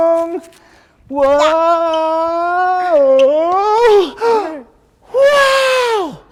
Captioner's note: gasps